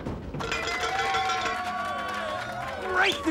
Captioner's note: <i> cheering</i>